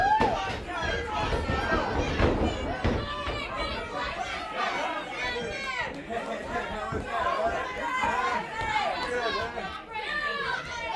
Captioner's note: crowd chatter